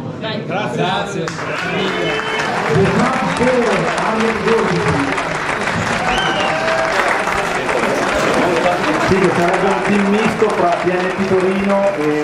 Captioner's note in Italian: Applauso